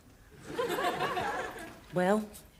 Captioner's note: audience laughing